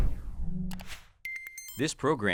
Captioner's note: swoosh; mouse click